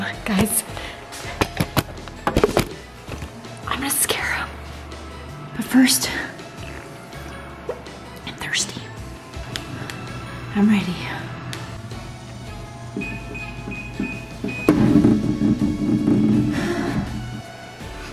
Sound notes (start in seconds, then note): 12.9 beeping sounds